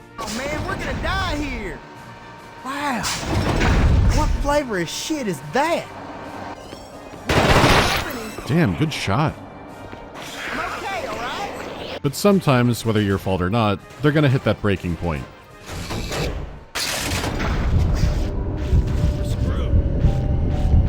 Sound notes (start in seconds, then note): 7.3 burst of gunfire; 16.7 clanking of mechanisms; 18.2 ominous tune